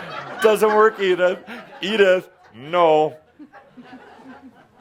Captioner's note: laughter